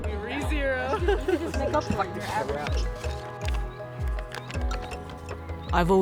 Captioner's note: group chatting; music brightens; team laughing & working together